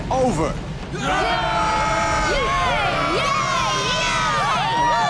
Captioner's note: cheering